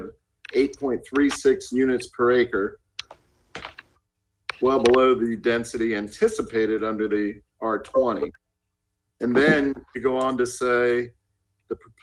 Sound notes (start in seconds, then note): 0.0 rustling papers; 0.4 ~audio distortion~; 1.2 rustling papers